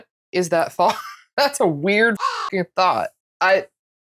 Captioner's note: caw